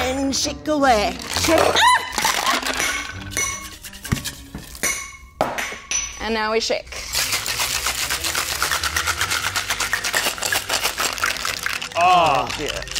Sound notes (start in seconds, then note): 2.2 shaker cap clinking; 7.1 ice shaking; 7.2 quirky orchestral music